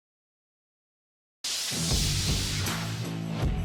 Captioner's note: electric shock